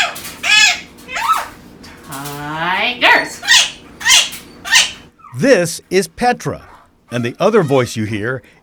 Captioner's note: parrot sounds